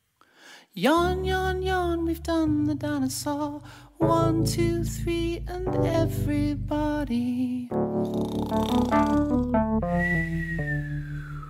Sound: snoring sounds

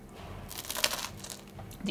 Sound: Crunch

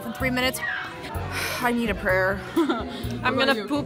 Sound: sigh

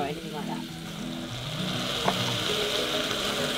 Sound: sizzling; gentle electronic music

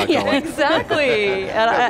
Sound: laughing

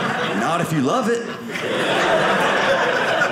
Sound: audience laughing

